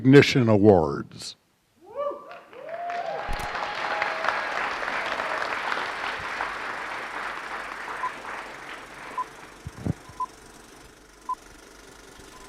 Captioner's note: applause